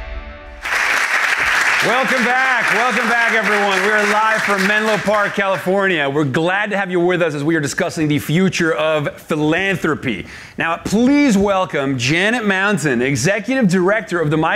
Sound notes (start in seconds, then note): 0.6 audience applauding